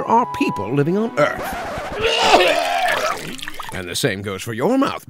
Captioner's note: record scratch; vomits